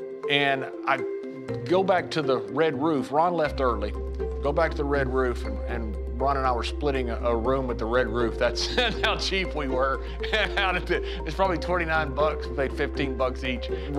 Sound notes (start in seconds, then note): 8.6 laugh